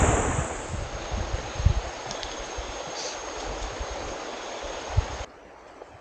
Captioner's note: birdsong and loud cicadas